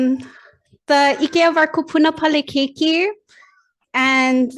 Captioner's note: speaks in foreign language